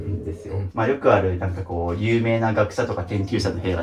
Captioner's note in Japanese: 咳払い